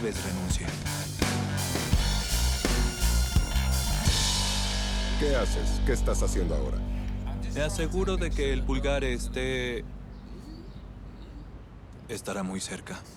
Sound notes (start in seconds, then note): 1.5 laughs; 3.3 upbeat rock music